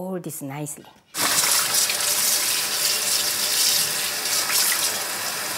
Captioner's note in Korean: 수돗물 소리